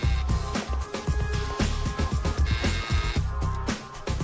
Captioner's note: door buzzer